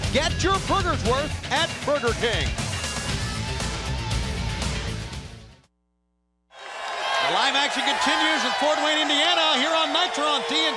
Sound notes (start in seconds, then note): 2.8 crowd cheering